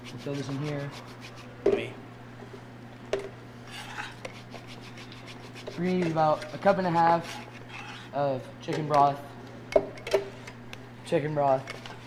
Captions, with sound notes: So let's fill this in here. (zester grating) - Me? (metallic scraping) (zester grating) - We're gonna eat about a cup and a half of chicken broth. - Chicken broth.